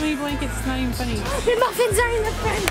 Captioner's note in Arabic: الشهقات